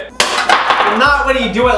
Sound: clack

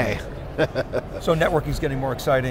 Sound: laughs

